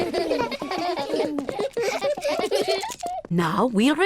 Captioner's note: all laugh